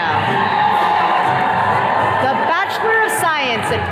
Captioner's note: attendees cheering